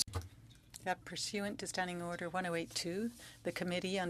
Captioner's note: speaking French